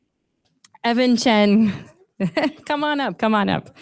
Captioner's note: chuckles